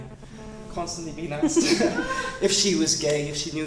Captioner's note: laughter